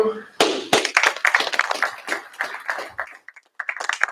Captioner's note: applause